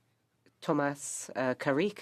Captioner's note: speaking French